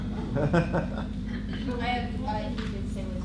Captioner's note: laughter